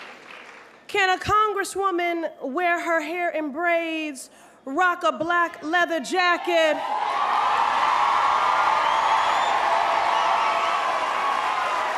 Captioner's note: applause